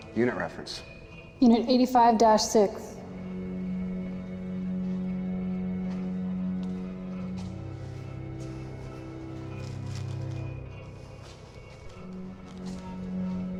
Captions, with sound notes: - Unit reference. - Unit 85-6. (suspenseful music continues) (footsteps thumping)